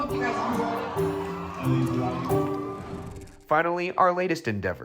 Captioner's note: crowd cheering